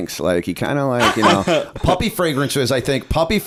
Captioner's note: laughter